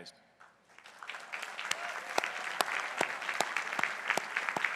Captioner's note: crowd applauding